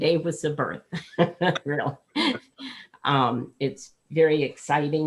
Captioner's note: laughing